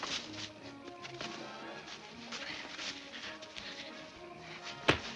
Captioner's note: fists thuds continues